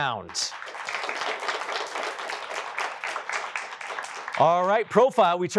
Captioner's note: applause